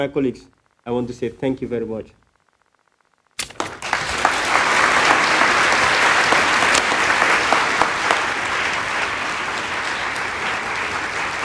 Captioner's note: applause